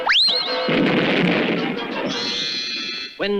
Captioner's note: explosion